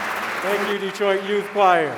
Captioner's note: applause